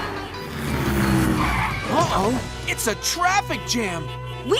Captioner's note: cars honking